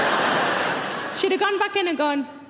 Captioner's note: audience laughs